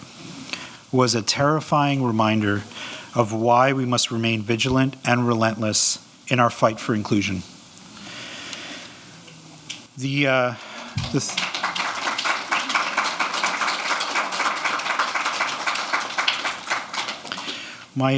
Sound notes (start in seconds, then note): 10.4 audience clapping